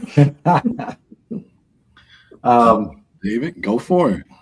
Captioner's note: laughing